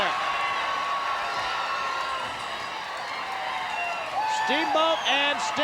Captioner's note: crowd cheers